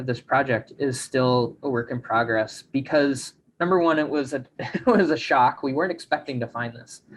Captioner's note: chuckles